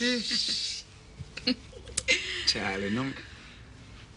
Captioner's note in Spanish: Risas